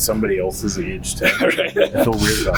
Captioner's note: laughing